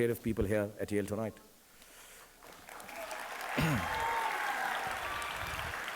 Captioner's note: audience applauding